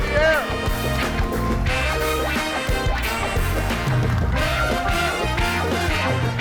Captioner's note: upbeat music; audience applauds